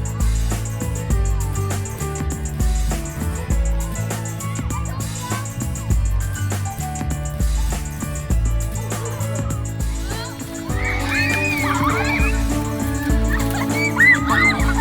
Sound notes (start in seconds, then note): 8.7 balloons splatting; 9.6 campers excitedly shouting